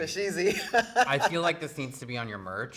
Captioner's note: laughing